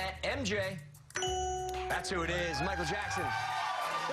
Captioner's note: cheers and applause